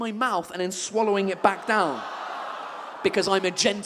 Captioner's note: audience exclaims in disgust